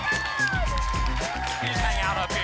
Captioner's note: applause and cheering cont